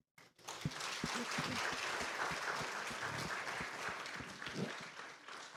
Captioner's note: applause